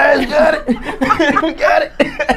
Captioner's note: laughing